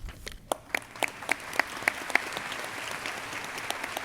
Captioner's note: crowd applauding